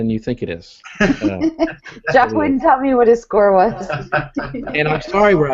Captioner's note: laughing